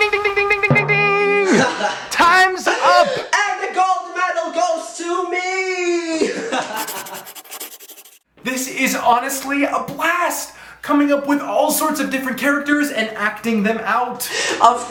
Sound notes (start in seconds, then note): 6.7 laughs